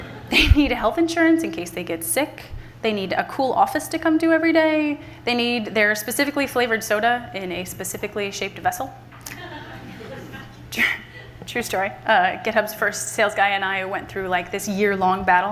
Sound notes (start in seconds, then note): 9.3 laughter from the audience